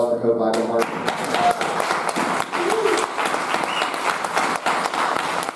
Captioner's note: audience applauding